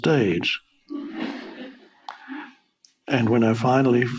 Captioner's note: audience laughing